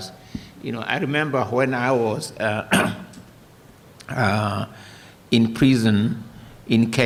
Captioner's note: coughs